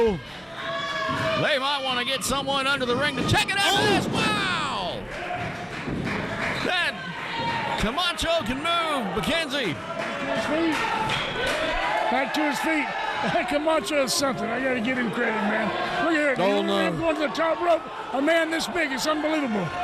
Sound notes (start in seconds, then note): 3.7 loud thump; 4.5 audience clapping; 13.4 laughs